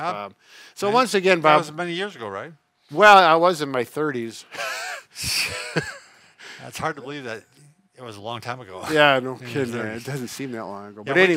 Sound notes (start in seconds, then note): 4.5 laughs